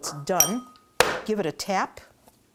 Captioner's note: tapping